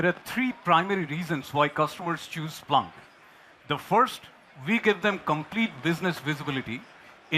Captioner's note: applause